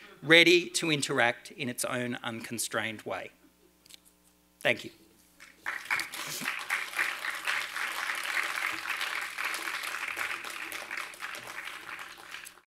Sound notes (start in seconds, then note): 5.4 attendees applaud